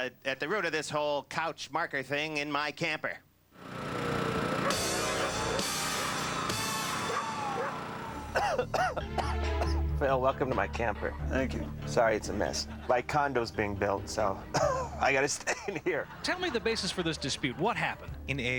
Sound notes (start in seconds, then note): 8.0 coughing; 14.2 cough